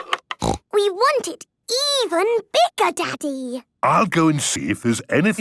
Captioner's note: snorting